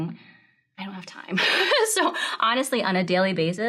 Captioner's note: laughs